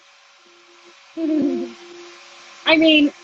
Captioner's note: chuckles